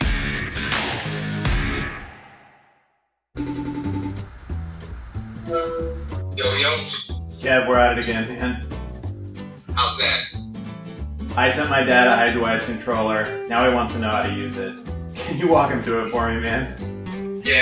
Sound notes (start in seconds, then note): 0.1 upbeat music; 3.6 phone rings